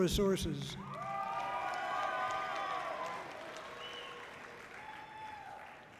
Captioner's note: audience cheering loudly